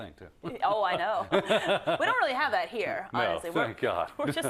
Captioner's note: laugh